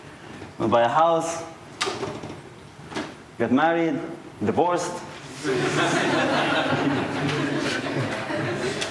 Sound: laughter

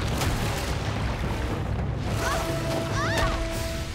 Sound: screaming

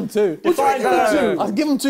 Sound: both mumbling

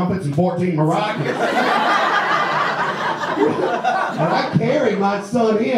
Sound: audience laughs

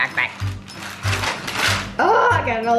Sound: parchment paper crackling

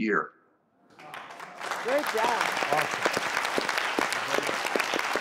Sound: audience claps

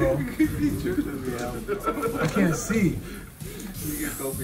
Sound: laugh

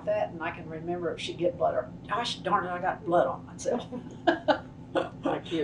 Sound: laughter

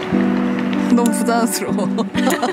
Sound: laughing

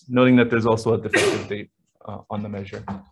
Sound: sneezing

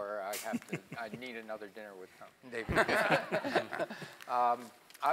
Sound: laugh

